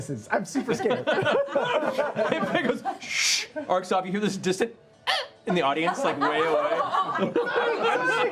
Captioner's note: yelp